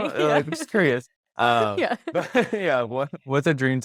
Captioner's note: laughs